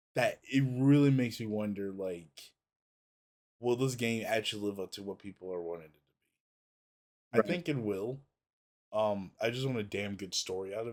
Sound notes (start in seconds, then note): none